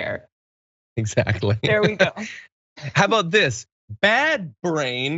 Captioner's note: laugh